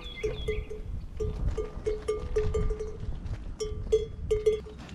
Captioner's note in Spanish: campanas de cabra tintineando